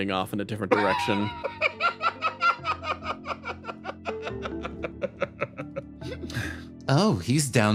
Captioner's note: laugh